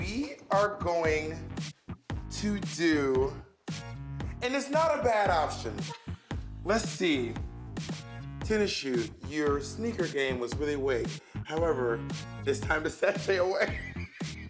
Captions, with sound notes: We are going to do... and it's not a bad option. - [laughs] - Let's see. Tennis shoe. Your sneaker game was really wake. However, it's time to sashay away.